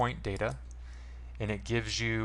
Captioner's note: mouse click